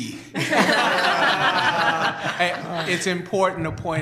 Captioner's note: laughter